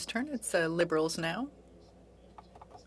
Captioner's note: speaking French